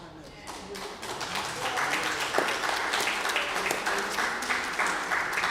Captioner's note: applause